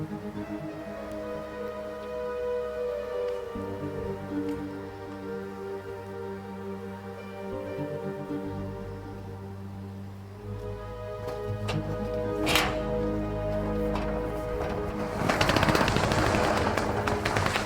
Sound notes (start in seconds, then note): 0.1 suspenseful orchestral music; 12.2 shutter clangs